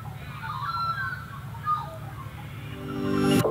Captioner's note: birdsong